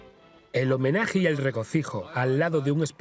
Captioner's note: voiceover